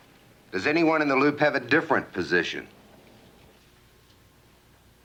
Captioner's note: none